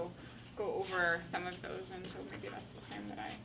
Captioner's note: faintly speaking